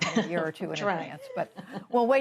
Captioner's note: laughter